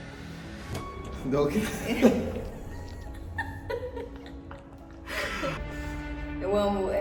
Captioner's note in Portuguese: risos